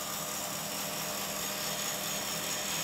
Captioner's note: whirring